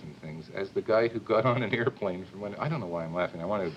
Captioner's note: chuckles